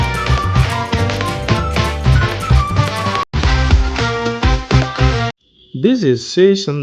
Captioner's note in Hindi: तालियाँ